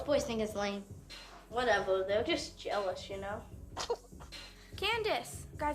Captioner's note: giggles